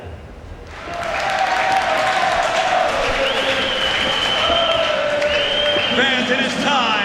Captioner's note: applause